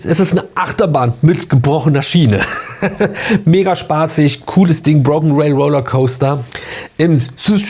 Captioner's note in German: gelächter